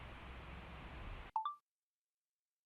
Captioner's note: chime of phone recorder being turned off